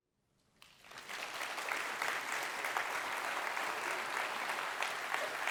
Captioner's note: audience applauds